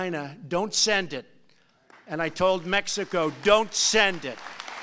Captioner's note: applause